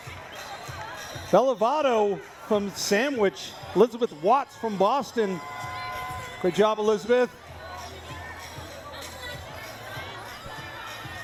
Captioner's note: cheering